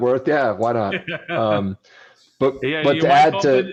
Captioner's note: laughs